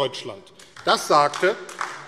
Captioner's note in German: Beifall AfD